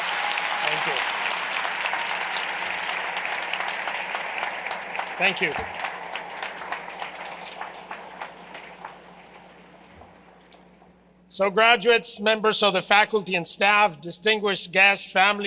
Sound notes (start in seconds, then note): 0.0 cheers and applause